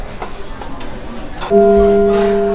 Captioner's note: public Address sounds